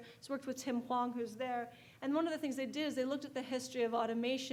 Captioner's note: none